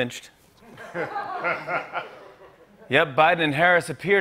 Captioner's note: laughter